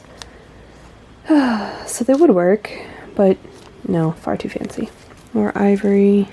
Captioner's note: sigh